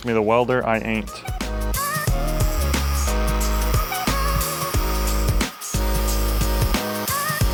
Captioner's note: upbeat techno music; tool grinding